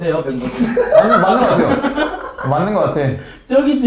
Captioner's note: just laughing